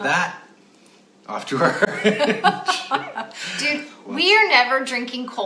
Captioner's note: laughs